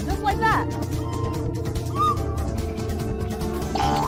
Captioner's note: terrible whistling